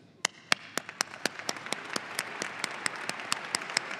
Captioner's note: audience applauding